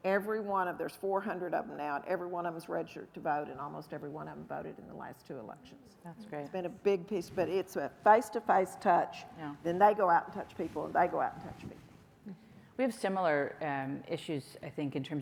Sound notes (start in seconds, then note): none